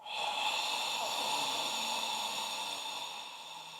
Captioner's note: man exhaling